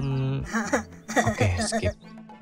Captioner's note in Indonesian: Minion's Laugh